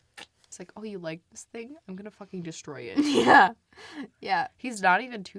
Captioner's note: laughs